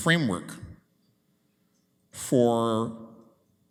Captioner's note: none